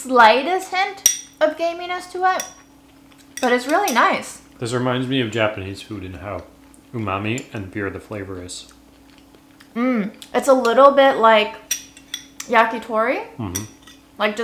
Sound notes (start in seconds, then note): 5.7 speaks in foreign language